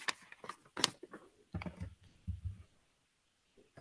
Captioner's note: pages rustling